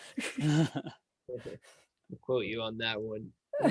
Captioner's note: laughing